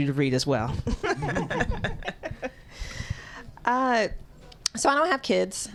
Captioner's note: laughter